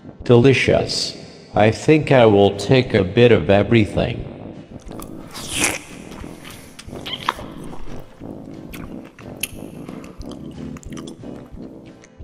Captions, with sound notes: Delicious. I think I will take a bit of everything. *slurping noises*